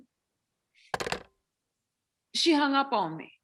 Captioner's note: slams phone